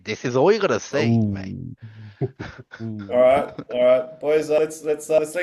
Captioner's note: laughs